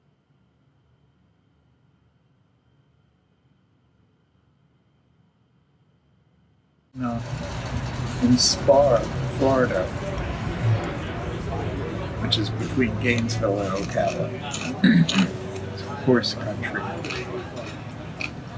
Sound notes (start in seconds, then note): 11.1 people murmuring; 14.6 clears throat